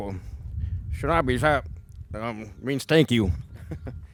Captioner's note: foreign language; chuckling